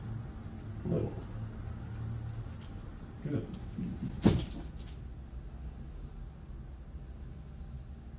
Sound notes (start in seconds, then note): 4.2 crack